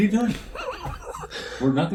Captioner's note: laughing